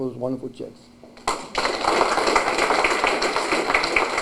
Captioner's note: applause